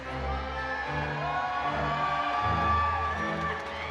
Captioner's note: audience cheering